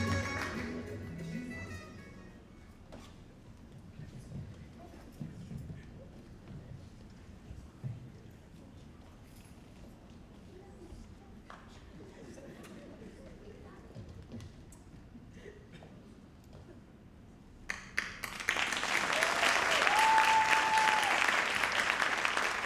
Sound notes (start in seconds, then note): 11.6 audience faintly chattering; 17.8 audience cheering and applauding